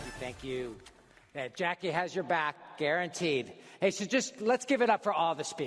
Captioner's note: applause